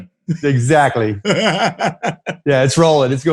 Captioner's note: chuckles